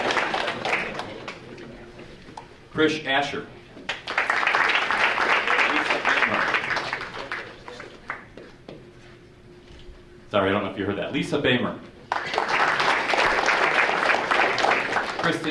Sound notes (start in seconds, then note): 3.8 audience applauding; 12.0 audience applauding